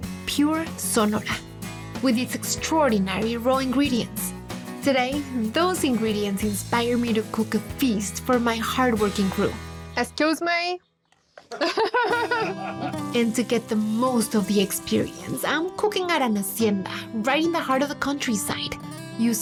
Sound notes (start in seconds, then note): 11.4 laughter; 12.8 sizzling